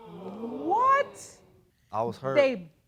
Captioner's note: audience gasps